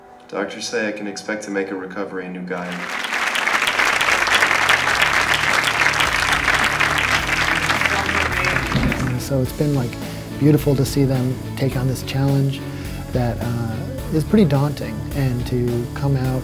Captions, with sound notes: Doctors say I can expect to make a recovery a new guy (applause) So it's been like beautiful to see them take on this challenge That is pretty daunting and to come out